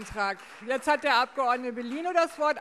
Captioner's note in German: Beifall SPD